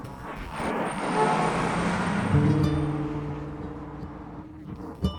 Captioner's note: roar of commuter traffic